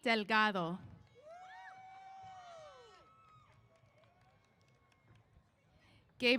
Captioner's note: applause & Cheers